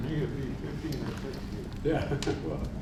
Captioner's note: laughs